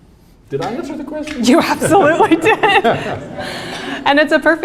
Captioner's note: chuckles